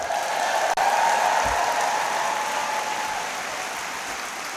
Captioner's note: applause